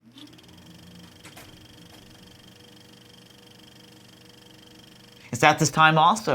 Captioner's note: film reel rolling